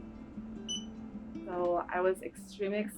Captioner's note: beep